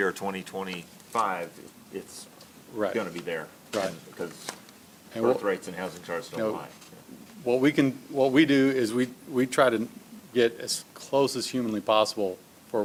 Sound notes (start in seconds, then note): none